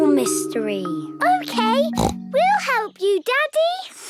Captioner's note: snorts